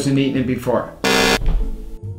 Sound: buzz

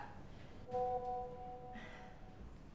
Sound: Whatsapp Notification Sound

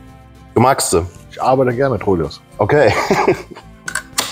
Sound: laughing

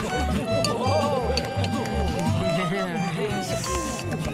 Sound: pleased sounds

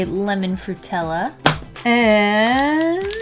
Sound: smack

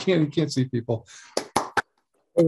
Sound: applause

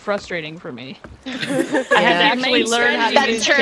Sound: laugh

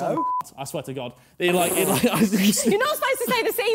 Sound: beep noises

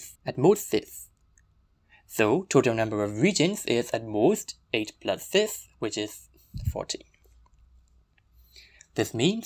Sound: sound of bad audio

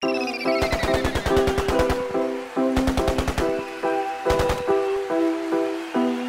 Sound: automatic gunfire

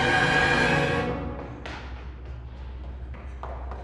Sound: footsteps running

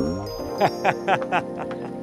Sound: laughter

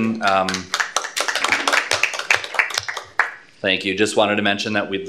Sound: applause

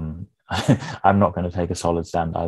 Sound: chuckling

